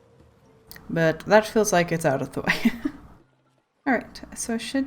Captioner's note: laughs